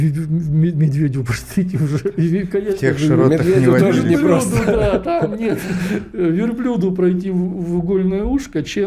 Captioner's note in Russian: смех